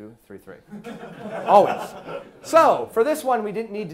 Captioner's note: class laughing